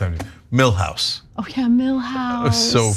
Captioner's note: laugh